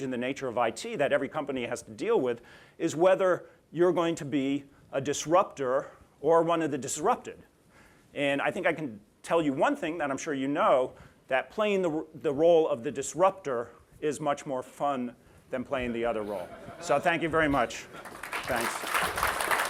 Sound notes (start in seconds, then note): 17.8 applause